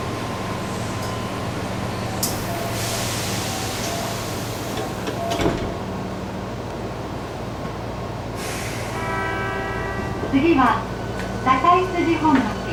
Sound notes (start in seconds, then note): 8.8 train horn